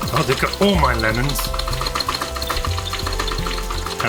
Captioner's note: frantic Clacking of Keys